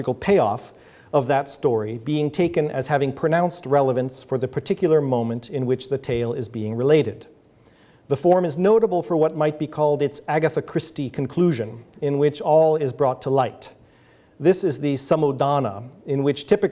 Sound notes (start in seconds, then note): none